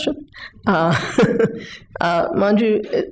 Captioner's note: chuckles